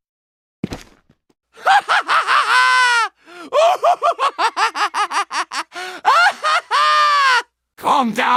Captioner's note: maniac laughing